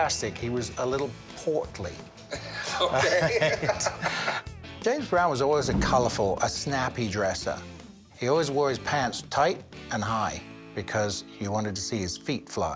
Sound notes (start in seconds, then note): 2.3 laughs